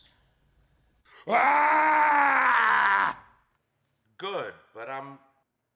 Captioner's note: actor roars